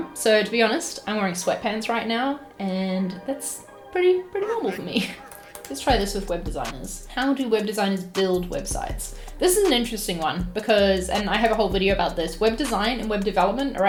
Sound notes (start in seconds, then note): 4.4 chuckles